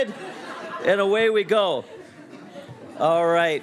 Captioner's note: students laughing